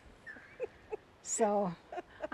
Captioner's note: laughs